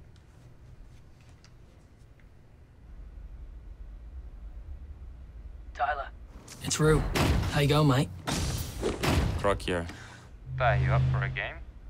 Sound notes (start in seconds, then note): 8.2 character stomping